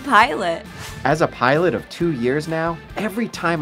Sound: voiceover

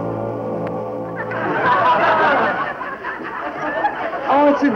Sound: people laughing

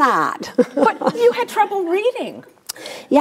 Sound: Suze and audience laugh

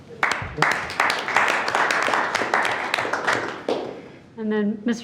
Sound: board members clapping

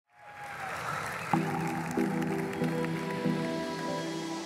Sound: applause

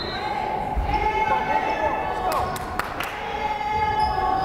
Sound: whistle blows; crowd cheering

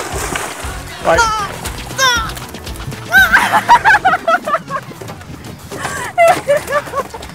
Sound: struggles

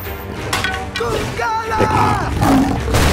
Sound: yelling

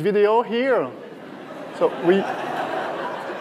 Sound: laughter

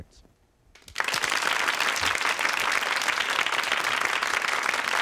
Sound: audience claps

